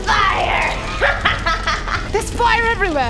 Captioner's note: evil cackle